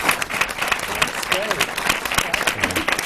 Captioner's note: applause